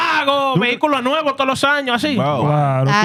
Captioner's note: speaking In Foreign Language